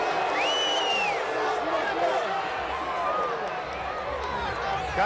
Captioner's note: crowd boos; fan whistles